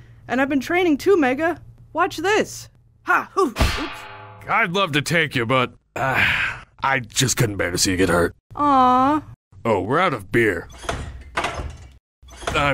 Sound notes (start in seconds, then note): 3.6 lamp thuds; 10.8 door clicks